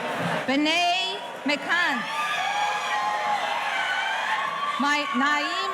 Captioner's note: audience cheering